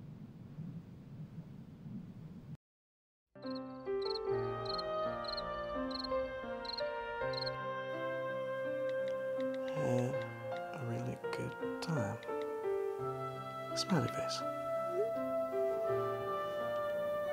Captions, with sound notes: (gentle music) (crickets chirping) (phone clicking) - Had a really good time, smiley face. (phone beeps)